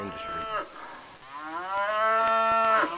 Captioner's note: cows mooing